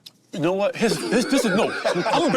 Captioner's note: group laughs